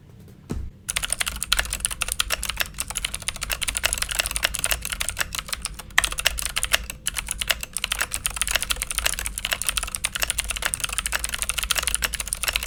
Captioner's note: typing